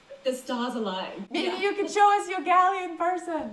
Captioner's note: chuckles